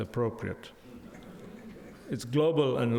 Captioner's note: audience laughs